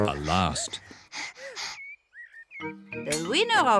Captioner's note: both pant